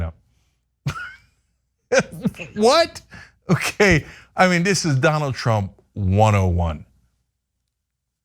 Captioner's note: laugh